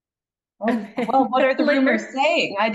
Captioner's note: chuckles